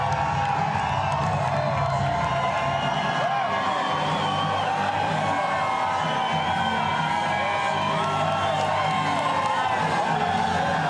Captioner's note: cheering